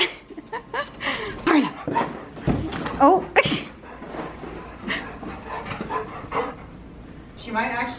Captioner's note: laughing; chuckling